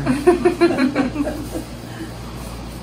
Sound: laughs

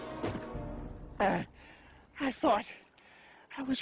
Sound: all groaning; Henry sighs

